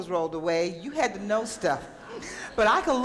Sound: audience laughter

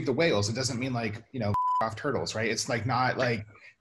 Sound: beep

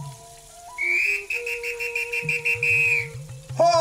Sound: whistle blows

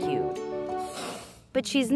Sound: hissing

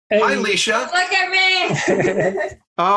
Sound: laughter

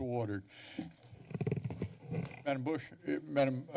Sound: mic noise

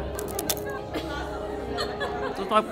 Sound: cone crunching

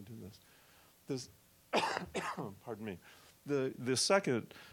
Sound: coughing

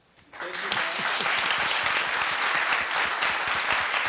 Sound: audience applauds

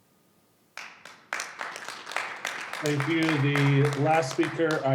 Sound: audience clapping

